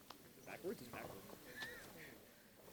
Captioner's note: chatter